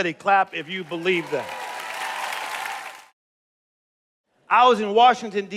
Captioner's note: cheers and applause